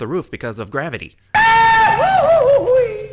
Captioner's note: screaming